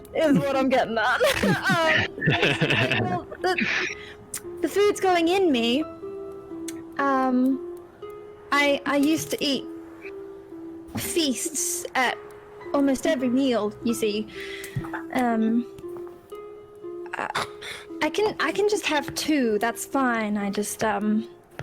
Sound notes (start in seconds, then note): 1.2 understanding laughter; 4.8 tsk; 14.3 breath